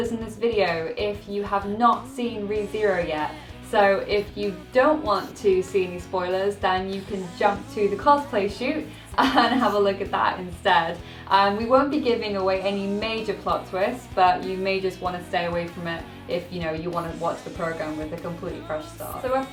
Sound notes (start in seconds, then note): 9.0 laughs